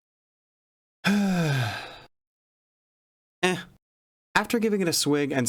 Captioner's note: sigh